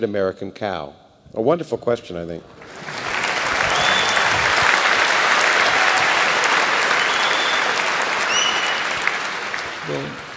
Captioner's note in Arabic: تصفيق